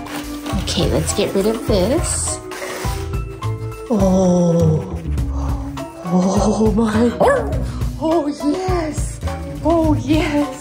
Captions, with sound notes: Okay, let's get rid of this. Oh. Oh my! [dog bark] Oh yes! Oh yes!